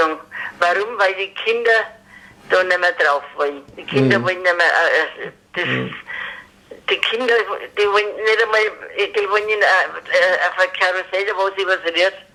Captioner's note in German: lacht